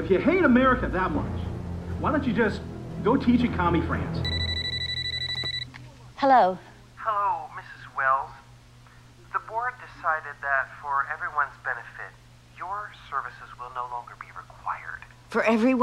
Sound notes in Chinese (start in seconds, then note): 4.2 电话铃响